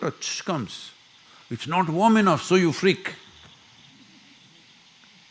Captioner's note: few laugh